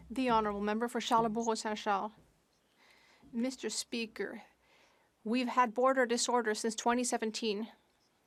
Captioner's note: speaking French